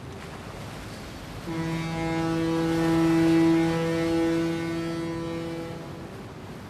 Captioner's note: horn blasts